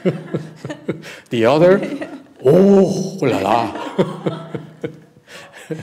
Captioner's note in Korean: 웃음